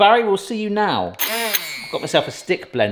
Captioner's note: blender whizzes